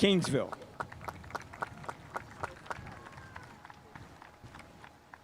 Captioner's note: spectators applauding